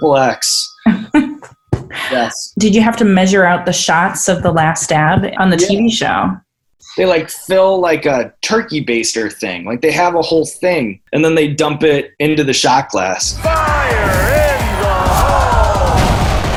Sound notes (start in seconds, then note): 0.8 laughs; 15.9 alarms blare; 15.9 crowd cheers; 15.9 intense music